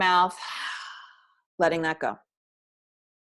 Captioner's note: loud breath